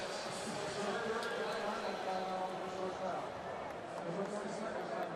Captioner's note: pa announcement